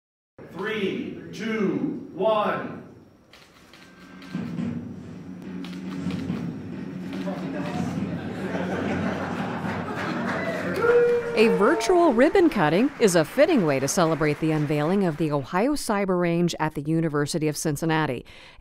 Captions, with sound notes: (Countdown and clapping) A virtual ribbon cutting is a fitting way to celebrate the unveiling of the Ohio Cyber Range at the University of Cincinnati--- a